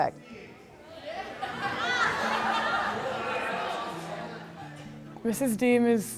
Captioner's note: students talking and laughing